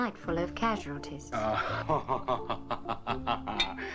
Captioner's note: laughing